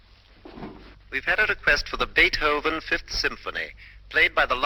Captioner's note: radio broadcast